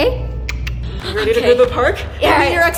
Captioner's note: clicks tongue